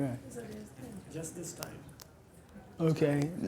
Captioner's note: voiceover